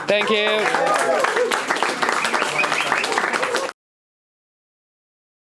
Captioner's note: audience clapping